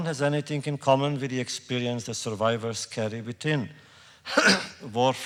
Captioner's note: coughs